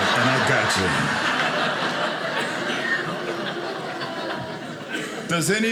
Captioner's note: audience laughing